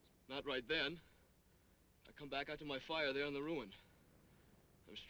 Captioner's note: none